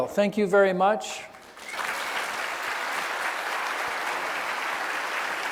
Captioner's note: audience applauding